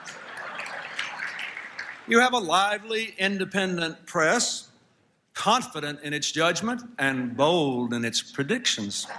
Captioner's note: laughter